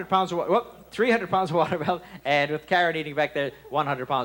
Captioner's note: laughs